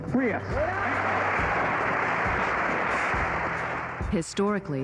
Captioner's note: applause